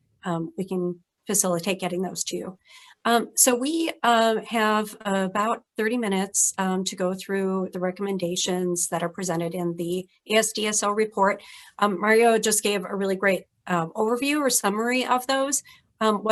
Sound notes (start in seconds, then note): none